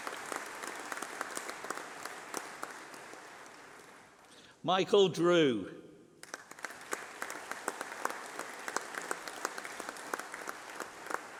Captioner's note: applause